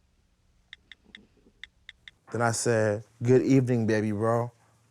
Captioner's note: clicking